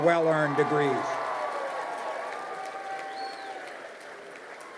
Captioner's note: crowd cheering